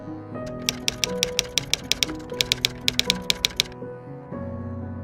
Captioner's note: typewriter keys clicking